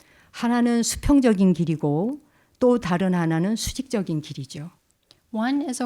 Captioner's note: speaking in Korean